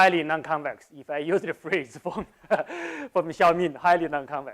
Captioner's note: laughs